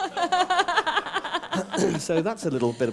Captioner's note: laughter